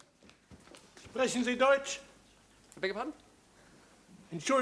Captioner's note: german